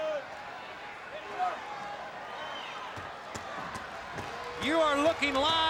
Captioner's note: crowd cheering